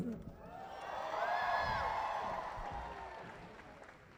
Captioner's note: cheering